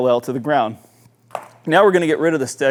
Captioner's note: stick clattering